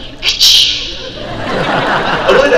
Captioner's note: whip cracking sound; crowd laugh